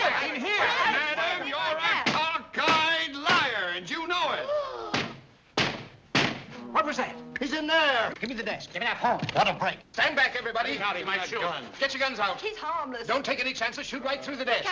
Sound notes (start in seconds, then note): 6.1 knocks three times